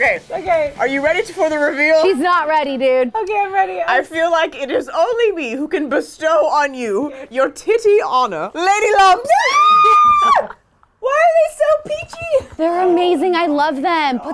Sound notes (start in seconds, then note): 9.2 screaming